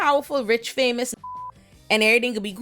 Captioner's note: beep